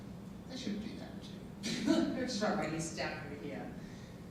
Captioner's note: laughing